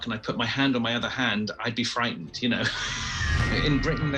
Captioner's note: laughing